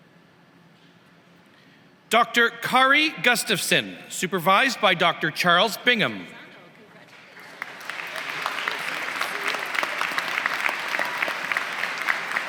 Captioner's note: applause